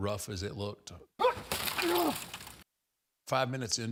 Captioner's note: window shattering; Undertaker grunting